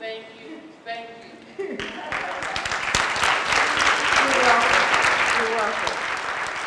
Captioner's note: applause